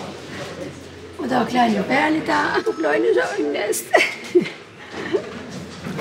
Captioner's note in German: lacht